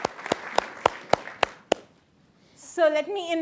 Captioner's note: group clapping